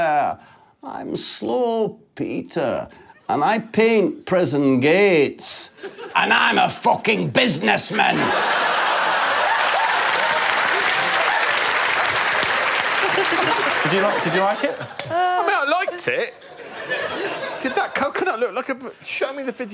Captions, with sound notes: My name is Quentin and I enjoy ballet. [audience laughing] And I'm Morgan and I don't think women should be allowed to breastfeed in public. [laughter] -You see my point. -I do see your point, yeah. He just looks like a coconut character.